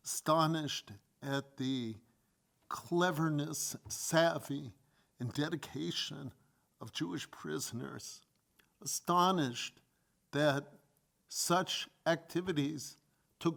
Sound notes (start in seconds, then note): none